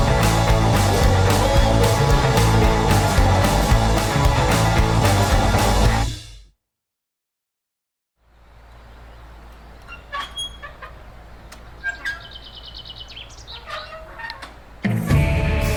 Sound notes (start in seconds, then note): 0.0 upbeat rock music; 9.6 metal creaking; 12.8 birds chirping